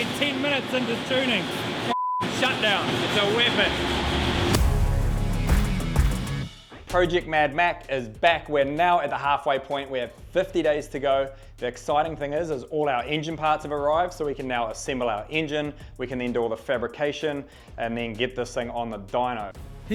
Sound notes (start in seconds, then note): 1.9 beep